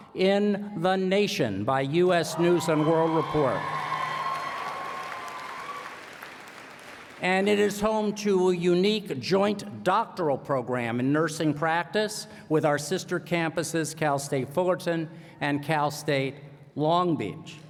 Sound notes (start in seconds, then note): 3.1 applause